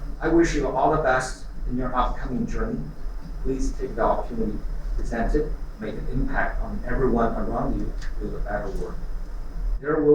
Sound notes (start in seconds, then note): none